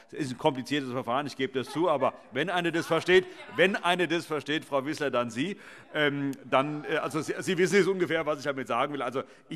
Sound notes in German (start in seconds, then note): 5.1 Heiterkeit